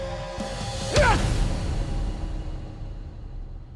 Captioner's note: grunting